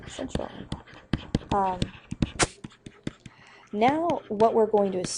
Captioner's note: pen scratching